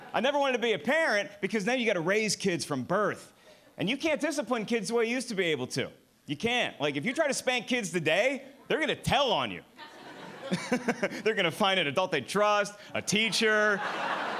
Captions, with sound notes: I never want to be a parent, because then you got to raise kids from birth. And you can't discipline kids who I used to be able to. You can't. Like if you try to spank kids today, they're gonna tell on you. (laughing) They're gonna find it adult they trust, a teacher,